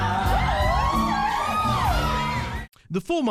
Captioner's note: cheering